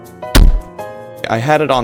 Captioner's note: slam